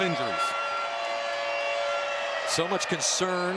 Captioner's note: horn honking